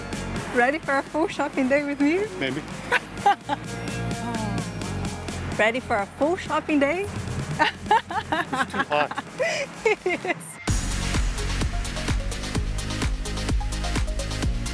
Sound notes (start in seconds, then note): 2.9 laughs; 7.6 laughs